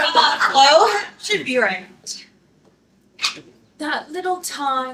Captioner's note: laughter